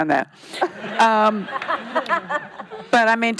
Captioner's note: laughing